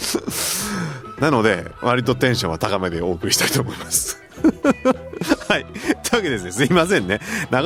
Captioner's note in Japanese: 笑い; 笑い